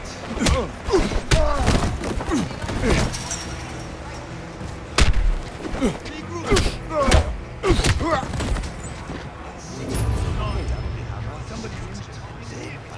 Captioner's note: groaning